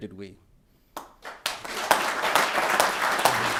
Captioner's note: applause